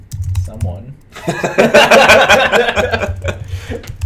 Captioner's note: laughter